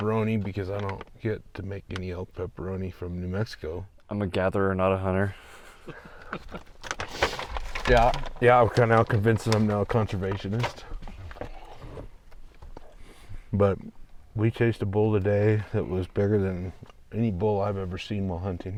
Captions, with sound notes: because I don't get to make any elk pepperoni from New Mexico. I'm a gatherer, not a hunter. (laughing) Yeah, we’re kind of out convincing them, I’m now a conservationist. But we chased a bull today that was bigger than any bull I've ever seen while hunting.